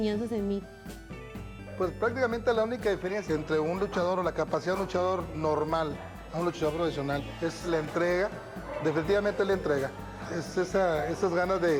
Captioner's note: Rey Misterio speaking Spanish